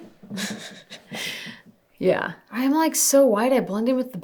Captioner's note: laughing